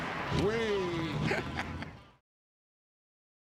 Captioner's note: laughter